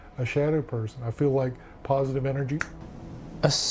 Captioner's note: fingers snap